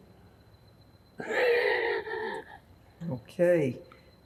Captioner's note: laughing